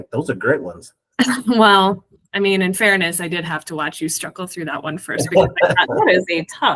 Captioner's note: laughs